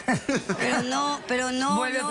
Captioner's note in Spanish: risas